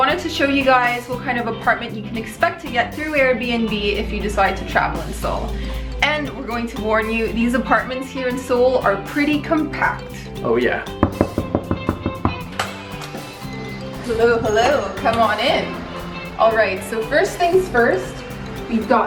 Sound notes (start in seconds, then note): 11.0 knocking sound